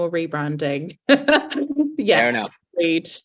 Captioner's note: laughs